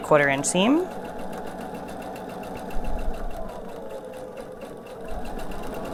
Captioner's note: sewing machine whirring